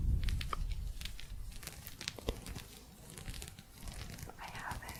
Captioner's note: gentle scratching